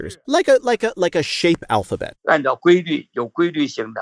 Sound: speaking Mandarin; speaking Mandarin

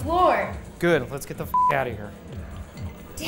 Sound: beeps

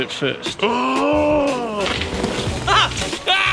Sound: laughs

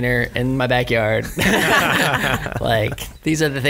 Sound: laughs

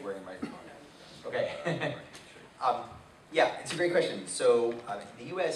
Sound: chuckles

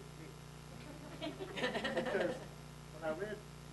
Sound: laughing

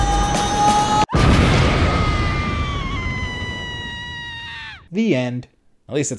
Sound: dramatic music; woman screaming

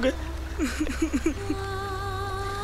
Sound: sobbing

